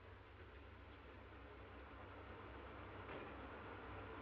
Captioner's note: engine humming